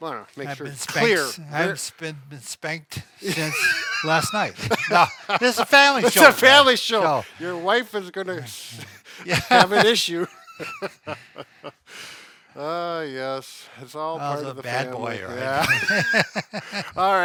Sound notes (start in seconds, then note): 3.2 laughs; 10.6 laugh; 15.5 laugh